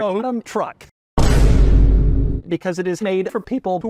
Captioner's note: Vine boom sound